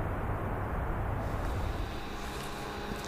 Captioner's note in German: Herannahendes Fahrzeug